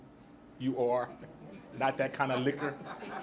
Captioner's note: audience laughs